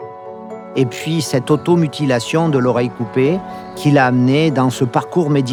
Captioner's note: light uplifting music continues; speaking in foreign language